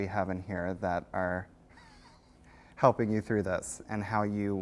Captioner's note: laughs